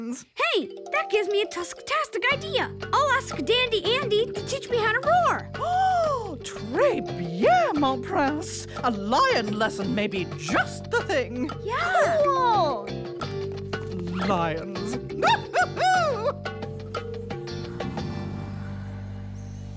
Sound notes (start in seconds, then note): 5.3 gasps